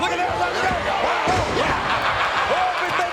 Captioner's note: Mabel thudding; Ted laughing